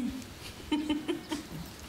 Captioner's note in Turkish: Gülüyor